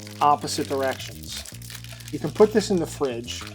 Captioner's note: parchment paper rustling